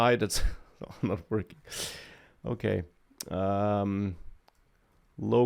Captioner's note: laughs